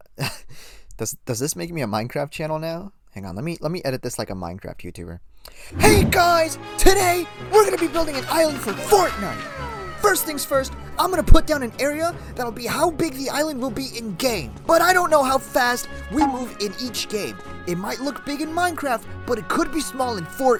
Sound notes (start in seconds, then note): 0.0 chuckle; 8.3 yelling